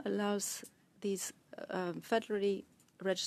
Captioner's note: speaking French